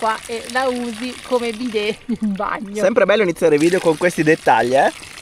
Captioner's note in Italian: risate